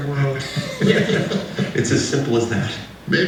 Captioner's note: laughing